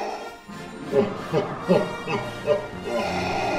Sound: deep laughter

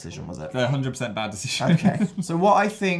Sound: laughs

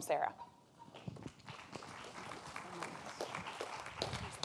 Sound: applause

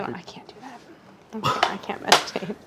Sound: laughs

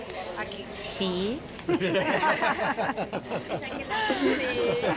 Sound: laughter

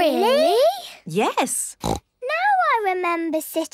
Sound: snorts

